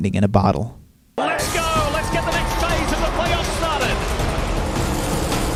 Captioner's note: crowd cheering